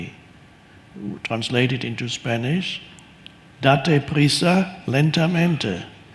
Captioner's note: speaks in Spanish